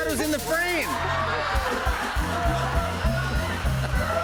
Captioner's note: laughter